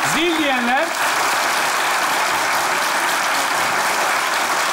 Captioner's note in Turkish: Alkış sesleri